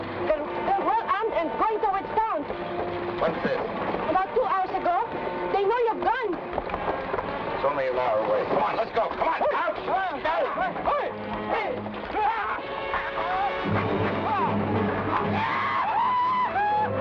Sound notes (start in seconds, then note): 9.5 men shout; 14.6 men shout